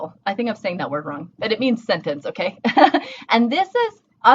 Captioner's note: laughing